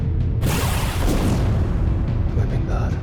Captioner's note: explosions; praying quietly